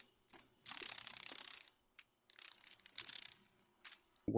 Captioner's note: sounds of a dragon fly